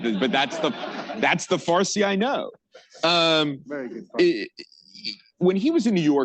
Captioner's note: laughter